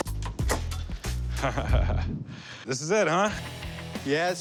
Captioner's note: laughs